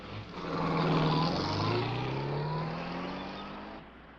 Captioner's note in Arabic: هدير محرك السيارة